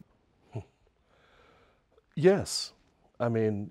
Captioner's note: chuckles